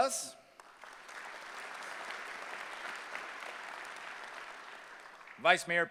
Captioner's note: applause